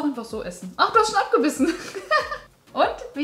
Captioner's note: laughing